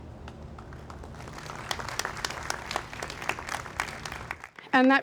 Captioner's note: audience applauds